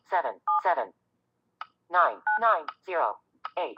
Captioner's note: Siri talking